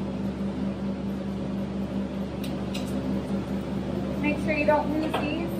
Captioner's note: vent Sounds